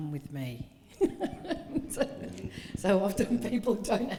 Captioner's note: laughing